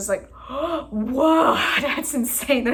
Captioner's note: gasp